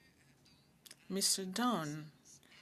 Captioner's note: speaking French